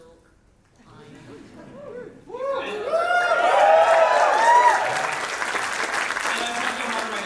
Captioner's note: audience woohoo and applause